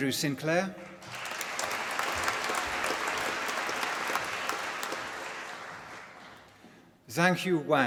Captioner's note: applause